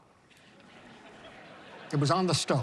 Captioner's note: laughter